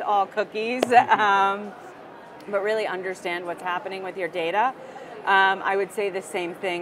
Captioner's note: laugh